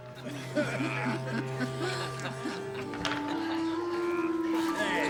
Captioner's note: people chattering and laughing